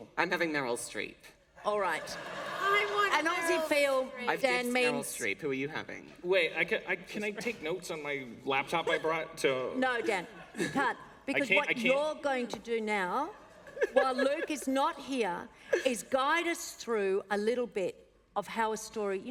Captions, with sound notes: >> I'm having Meryl Streep. >> All right [laughter]. >> I want Meryl Streep. >> An Aussie feel, Dan means -- >> I've picked Meryl Streep. Who are you having? >> Wait, can I take notes on my laptop I brought to -- >> No, Dan, you can't. >> I can't, I can't? >> Because what you're going to do now, while Luke is not here, is guide us through a little bit of how a story --